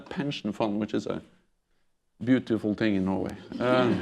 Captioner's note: laughter